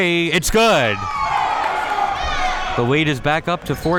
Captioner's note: people cheering